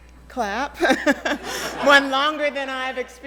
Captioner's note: laughs; audience laughs